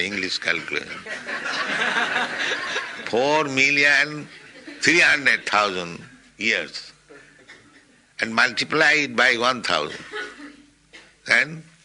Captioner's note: laughter